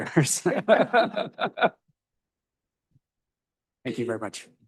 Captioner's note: chuckling